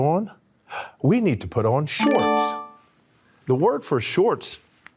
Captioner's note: upbeat tone chimes